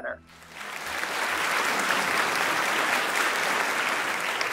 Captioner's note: audience clapping